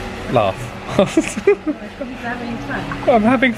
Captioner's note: giggles